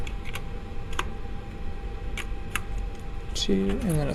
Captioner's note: connection clicks